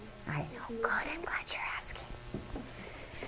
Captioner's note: whispers